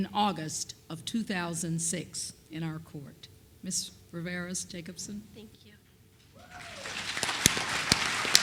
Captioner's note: applause